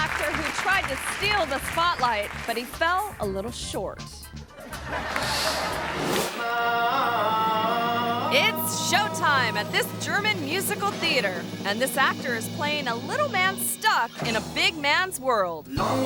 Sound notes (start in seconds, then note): 4.7 audience applauds; 6.9 actor vocalizing